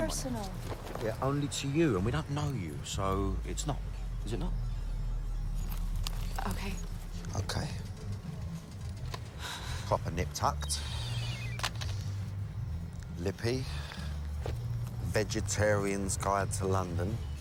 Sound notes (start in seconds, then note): 8.6 sighs; 11.5 cell phone beeping